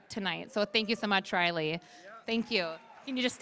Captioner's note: applause